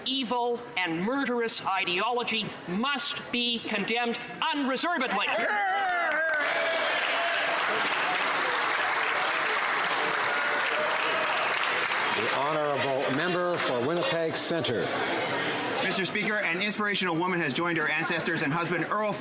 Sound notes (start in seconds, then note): 9.3 some Applause